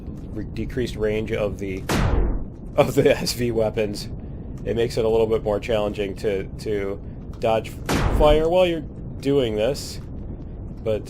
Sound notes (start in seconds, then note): 2.8 laughs